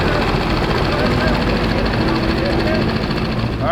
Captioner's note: engine revving